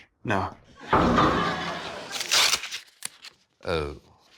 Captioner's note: oil drum clangs